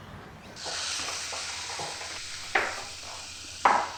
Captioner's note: birds chirping; food sizzling